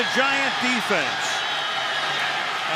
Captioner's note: whistle blowing